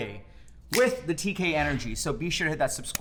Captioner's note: snaps fingers